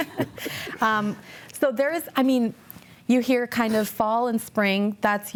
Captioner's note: laughs